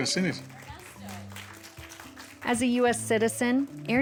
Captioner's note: applause